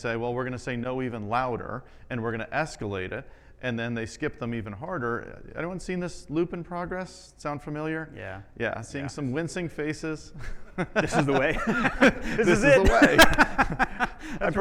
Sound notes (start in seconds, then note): 10.3 both laughing; 13.5 laughing